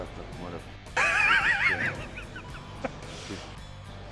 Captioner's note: Ethan laughing